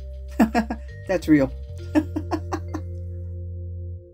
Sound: laugh

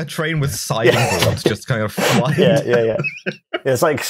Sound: laughs

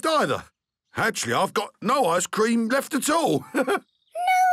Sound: chuckles

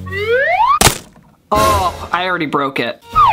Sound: brush cracking

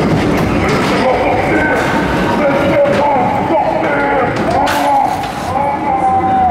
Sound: scream

